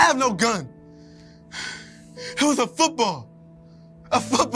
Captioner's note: heavy breathing